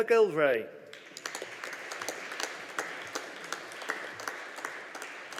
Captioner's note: audience applauding